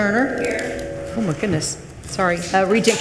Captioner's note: microphone feedback echoes